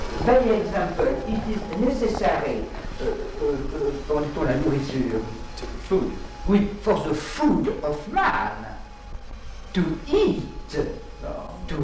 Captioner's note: animals